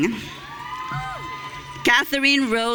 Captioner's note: audience cheering